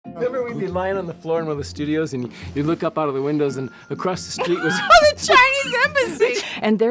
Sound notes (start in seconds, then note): 0.0 gentle upbeat music; 4.4 laugh